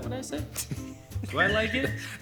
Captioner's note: laughs